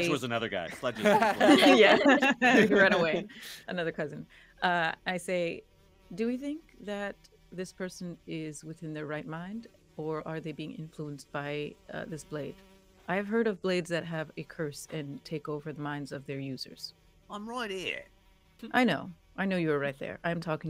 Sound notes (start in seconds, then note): 3.1 all laughing; 5.0 insect buzzing